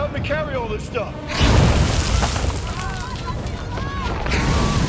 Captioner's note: overlapping chatter, screams